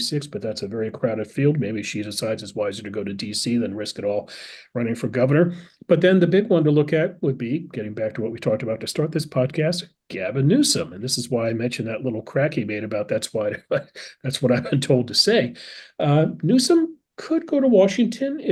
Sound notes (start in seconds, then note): 12.5 laugh